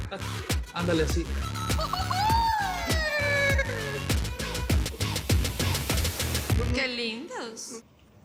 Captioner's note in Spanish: Exclamaciones